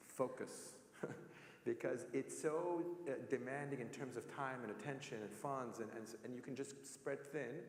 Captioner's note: laugh